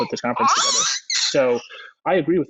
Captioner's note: screams